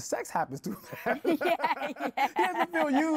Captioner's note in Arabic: ضحك